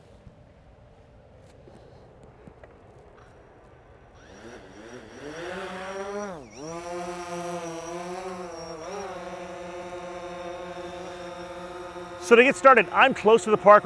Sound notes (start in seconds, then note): 5.8 whirring